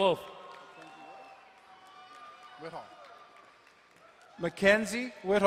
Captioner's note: crowd cheering and applauding